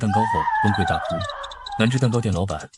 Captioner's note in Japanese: 号泣